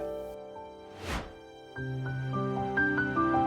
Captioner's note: air whooshes; gentle music